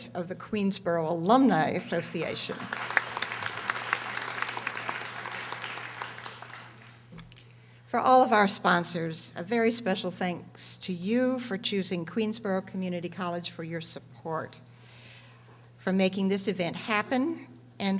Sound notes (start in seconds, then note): 2.1 audience applauding